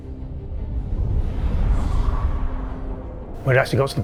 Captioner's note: wind blowing